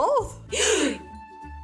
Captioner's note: gasp